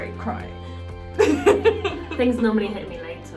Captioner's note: laughing